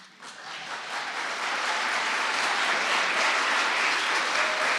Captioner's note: audience applauding